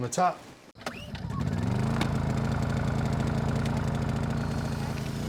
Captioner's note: engine revs